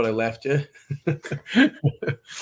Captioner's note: laughs